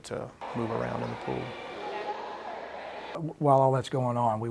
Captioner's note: people talking and swimming in the pool